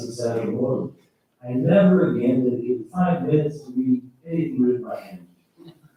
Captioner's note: faintly speaking